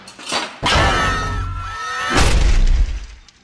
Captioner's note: crowd screams